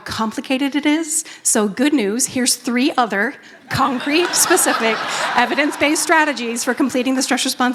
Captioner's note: laughter